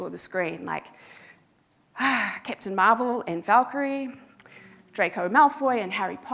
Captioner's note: sighs